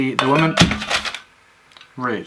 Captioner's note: something falls